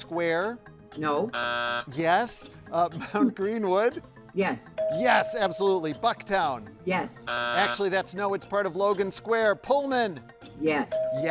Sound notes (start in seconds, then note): 1.2 buzzer buzzing; 4.8 bell dinging; 7.2 buzzer buzzing; 10.9 bell dinging